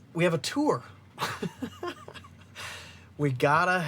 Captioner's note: laughs